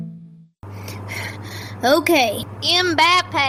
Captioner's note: breath